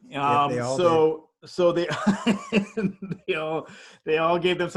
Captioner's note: laughs